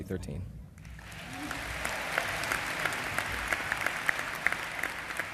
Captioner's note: applause